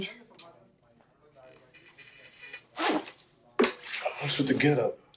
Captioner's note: people chattering